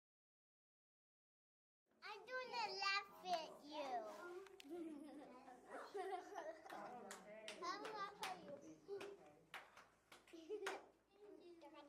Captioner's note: sounds of children in the classroom